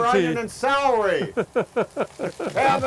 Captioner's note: chuckling